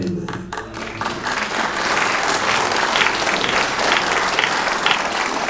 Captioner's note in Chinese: 掌声